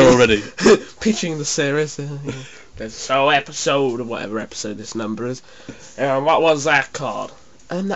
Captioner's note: texan accent